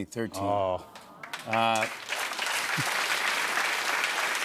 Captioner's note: applause